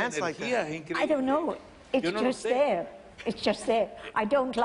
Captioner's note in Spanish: habla en ingles